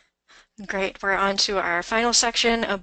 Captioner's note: voiceover